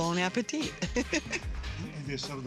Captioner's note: laughs